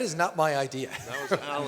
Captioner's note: laughs